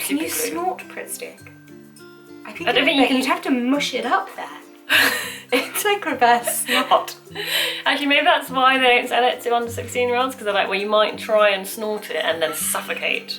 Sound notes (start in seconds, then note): 4.9 laughter